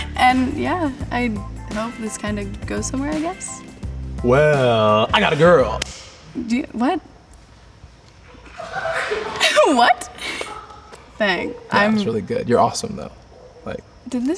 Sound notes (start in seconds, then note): 8.2 laughing